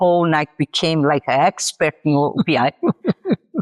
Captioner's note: laughs